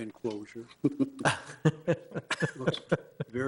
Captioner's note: people chuckling